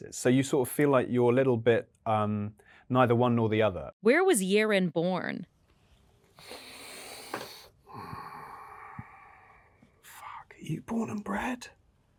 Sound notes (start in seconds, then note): 6.3 Luke deeply inhales and exhales